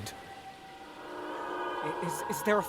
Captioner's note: shriek